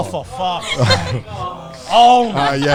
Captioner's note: laughing